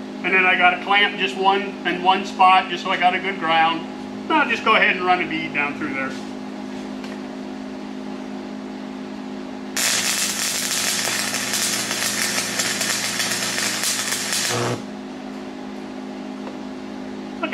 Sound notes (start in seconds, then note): 6.3 welding